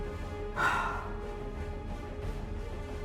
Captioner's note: sighing